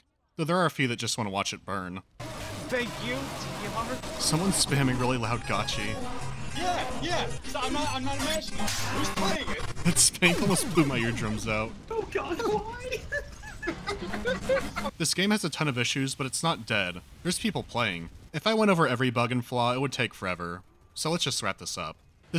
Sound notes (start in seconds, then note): 13.1 tortured chuckling